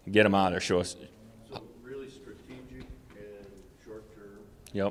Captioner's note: off-mic question